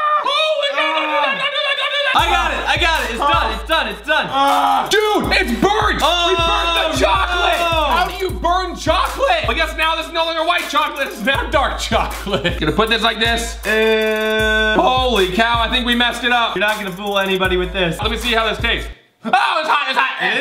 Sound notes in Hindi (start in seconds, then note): 0.0 चिल्लाना; 4.5 चिल्लाना